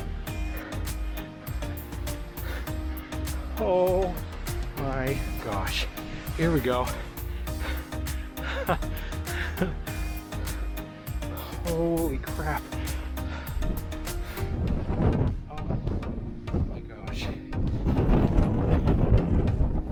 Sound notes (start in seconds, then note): 8.3 laughs; 13.1 laughs; 19.4 laughing